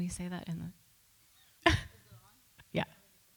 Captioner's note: laughs